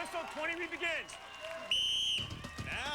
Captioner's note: whistle blows